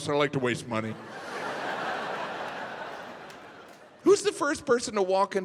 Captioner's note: audience laughs